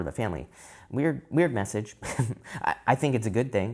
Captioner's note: chuckles